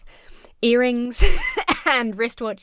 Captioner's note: laughs